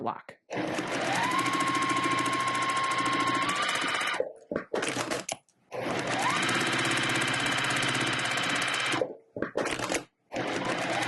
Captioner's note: sewing Machine Noises